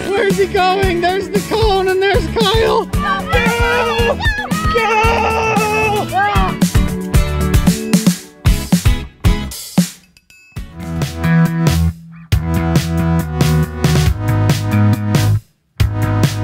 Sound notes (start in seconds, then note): 3.0 screaming; 7.1 cheery music; 10.8 light hearted music